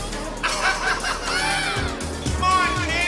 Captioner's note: laughing